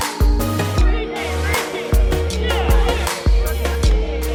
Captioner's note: chattering